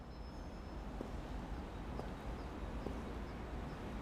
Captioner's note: none